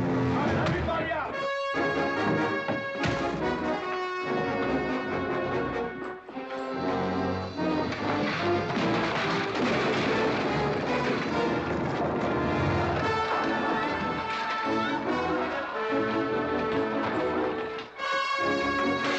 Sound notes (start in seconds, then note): 0.2 splat; 3.0 splat; 3.8 dramatic music; 7.6 crash; 10.8 dramatic music